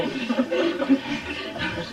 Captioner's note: laughter